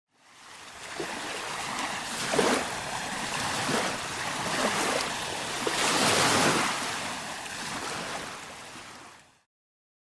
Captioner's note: waves sound